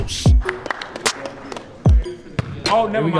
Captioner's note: clapping